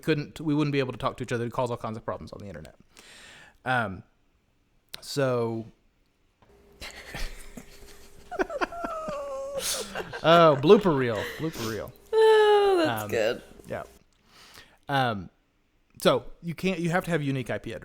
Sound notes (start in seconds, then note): 6.8 laughter